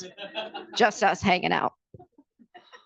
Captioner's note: participants laughing